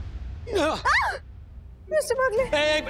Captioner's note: yelps